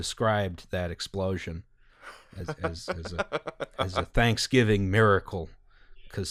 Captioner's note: laughter